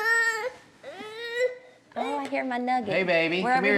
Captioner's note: starts crying